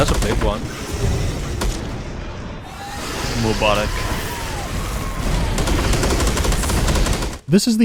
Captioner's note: chaotic sounds of battle